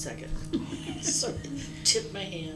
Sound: laughter

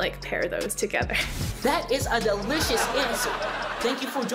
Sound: canned laughter

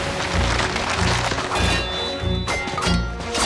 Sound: clanging

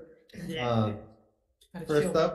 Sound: committee members chuckle

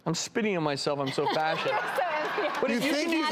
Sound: audience laughing

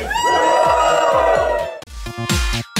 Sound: cheers and Music

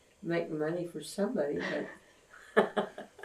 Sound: laughs

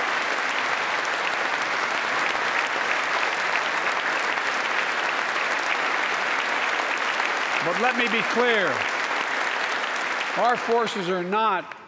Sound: applause

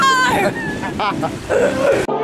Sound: laughter

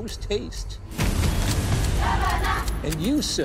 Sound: crowd chanting

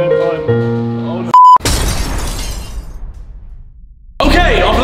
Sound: glass shattering

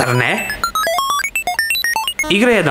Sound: strange 8-bit sounds

